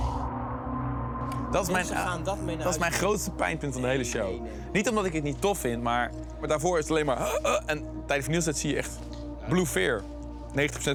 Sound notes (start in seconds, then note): 1.7 speaking in foreign language